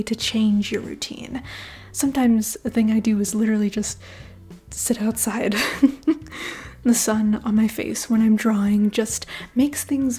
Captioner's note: chuckle